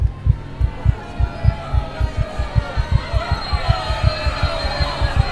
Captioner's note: crowds shouting